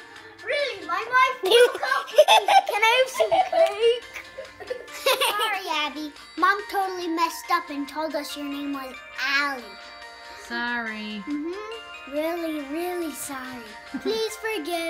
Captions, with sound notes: really... my wife broke up with me.. can I have some cake? *laughing* Sorry Abi. Mom totally messed up and told us your name was Ali. Sorry. really really sorry. please forgive us!